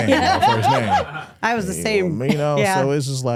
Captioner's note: group laughing